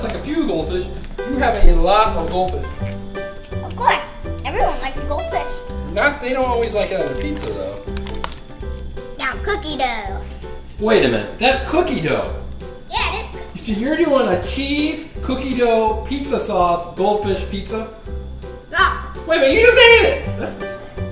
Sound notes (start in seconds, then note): 6.4 voiceover; 11.3 voiceover; 14.3 voiceover; 19.8 voiceover